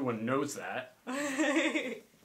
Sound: laughs

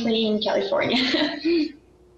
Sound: laughs

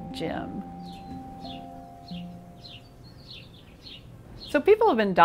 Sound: birds chirping

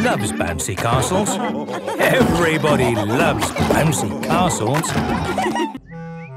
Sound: laughter

